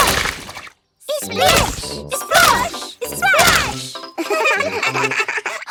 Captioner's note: laugh